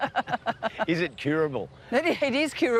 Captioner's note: both laugh